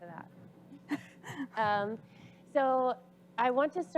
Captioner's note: laughing